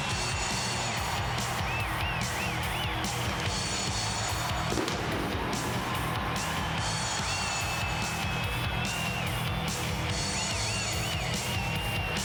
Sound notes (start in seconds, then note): 4.7 explosives blasting; 7.3 crowd cheering continues